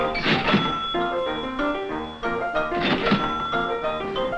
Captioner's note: cash register chiming